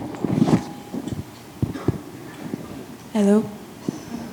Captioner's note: microphone thuds